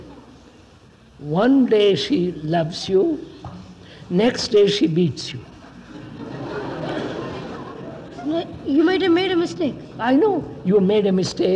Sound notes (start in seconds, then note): 1.3 laughs; 5.5 laughter